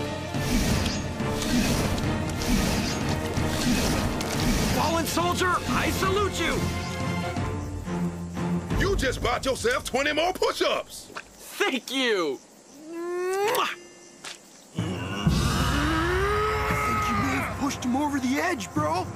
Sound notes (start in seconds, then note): 14.7 chef Growling Loudly